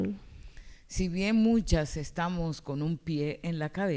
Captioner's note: speaking spanish